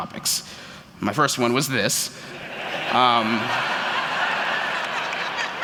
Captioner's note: laughter